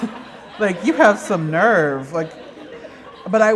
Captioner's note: laughter